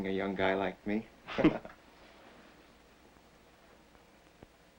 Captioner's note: both men chuckle